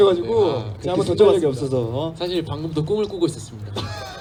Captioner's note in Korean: 웃음